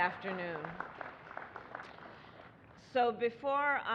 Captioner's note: applause